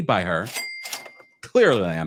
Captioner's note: bell dings